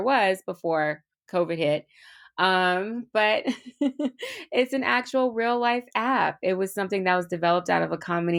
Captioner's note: laughs